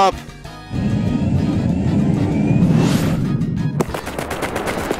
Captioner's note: zooming sound; very fast running